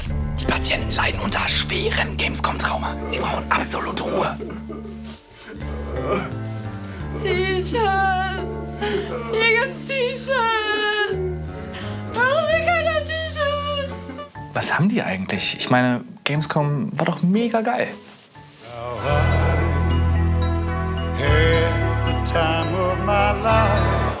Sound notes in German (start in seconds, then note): 5.8 Fragende Töne, Schluchzen